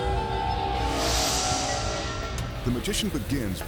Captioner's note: graphics whooshing